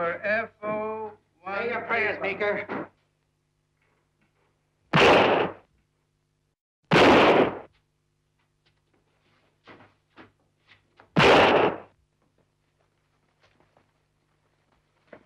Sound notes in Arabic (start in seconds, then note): 4.9 صوت طلقات نارية; 11.1 صوت طلقات نارية